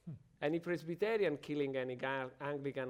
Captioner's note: panelist chuckles